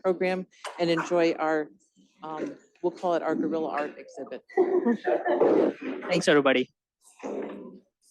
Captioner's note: laughter